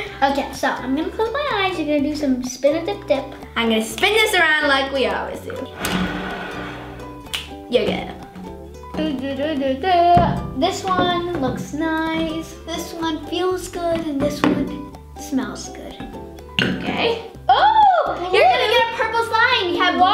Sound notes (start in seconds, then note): 7.2 snaps